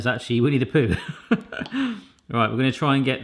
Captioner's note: laughs